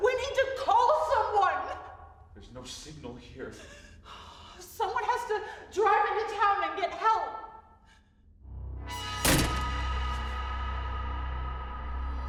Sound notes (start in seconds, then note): 8.4 frightening music; 9.0 slamming